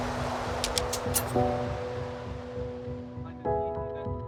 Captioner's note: logo ticks; gentle music